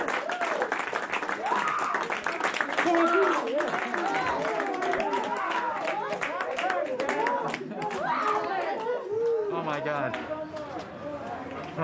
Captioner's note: applause